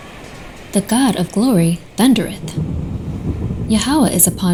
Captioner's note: singing fades; ocean waves rushing; thunder crashing